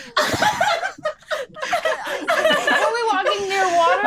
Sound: all laughing

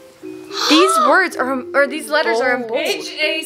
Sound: gasps

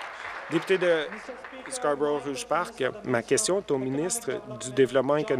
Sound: applause

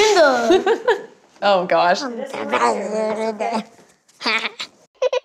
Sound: laughter; growling; baby giggles

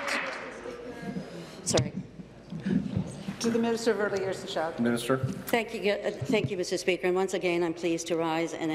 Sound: applause

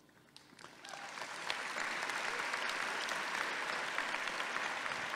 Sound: audience applauding

